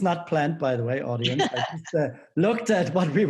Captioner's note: laughing